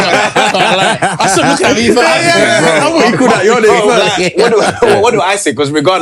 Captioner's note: laughter